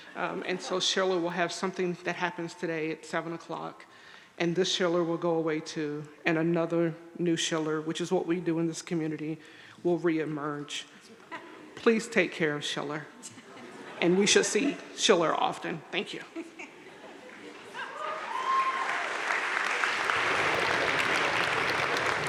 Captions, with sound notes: and so Schiller will have something that happens today at seven o'clock, and this Schiller will go away too, and another new Schiller, which is what we do in this community, will reemerge. Please take care of Schiller, (audience laughing) and we should see Schiller often. Thank you. (audience laughing) (audience cheering and applauding)